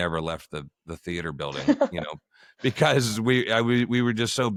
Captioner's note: laughter